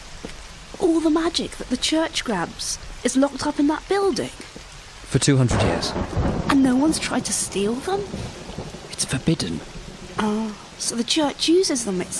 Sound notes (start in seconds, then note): none